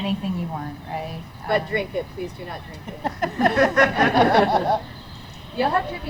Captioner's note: laughter